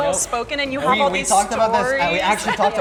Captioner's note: laughs